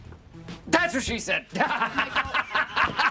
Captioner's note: laughs